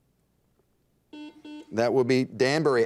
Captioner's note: buzzer dings